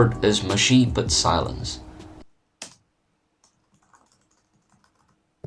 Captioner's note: typing sounds